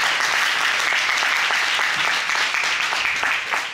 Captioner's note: audience applauding